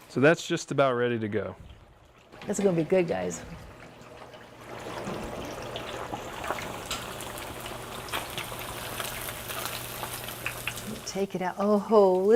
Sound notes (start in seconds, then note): 9.3 pork sizzles